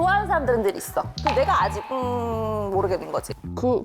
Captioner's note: confused sound effect